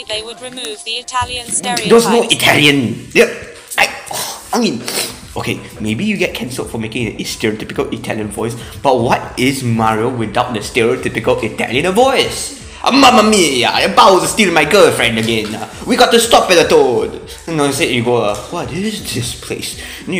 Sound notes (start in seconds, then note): 4.8 sniff; 12.5 inhales prepare for chaos